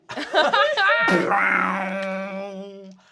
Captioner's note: they laugh